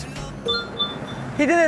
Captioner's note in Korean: 띠링